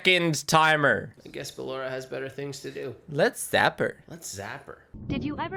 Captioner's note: mocking